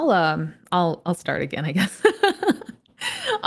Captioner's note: chuckles